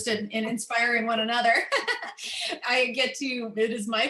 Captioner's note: laughter